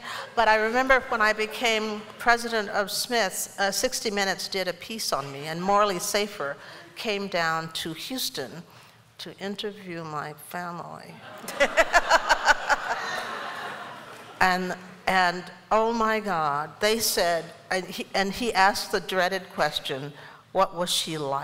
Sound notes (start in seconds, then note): 11.2 laughter